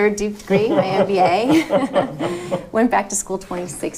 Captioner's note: laughing